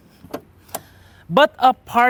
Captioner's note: click